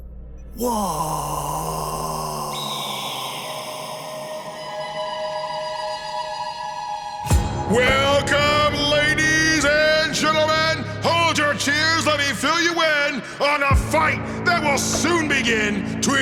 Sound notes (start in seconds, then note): 2.7 eagle Screech